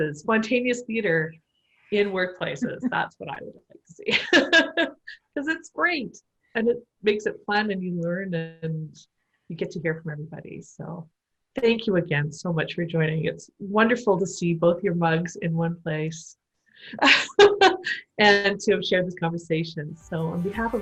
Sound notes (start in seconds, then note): 4.0 laughter; 17.0 laughter